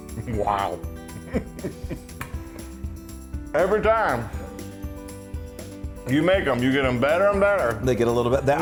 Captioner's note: laugh